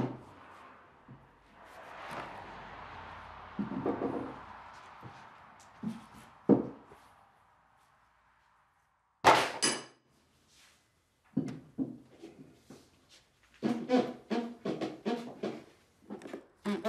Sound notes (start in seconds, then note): 13.6 creaking